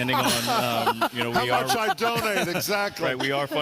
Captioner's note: all laugh